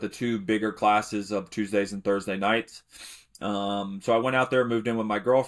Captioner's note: sniffs